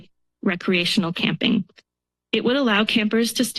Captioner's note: pause